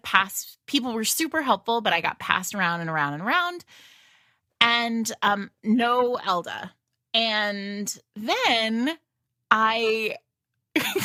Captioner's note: laughs